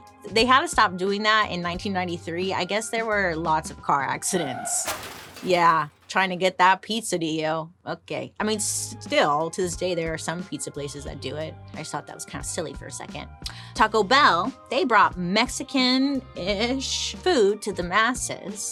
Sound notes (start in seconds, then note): 4.2 car tires screeching; 4.3 car crashing